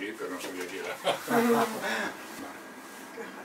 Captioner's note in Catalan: Risas